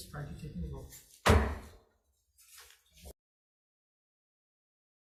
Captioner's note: gavel hammers